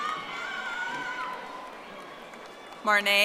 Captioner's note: audience applauding